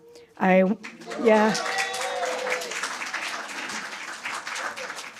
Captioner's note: applause, cheers